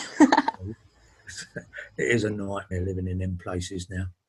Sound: laughing

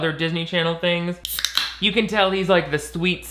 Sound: flip-top cracking open

